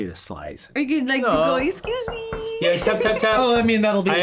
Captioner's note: tapping